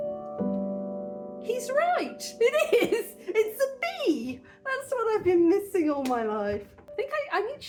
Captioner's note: laughing